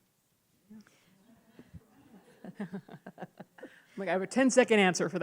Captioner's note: laughs